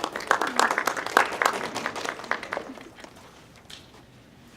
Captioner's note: audience clapping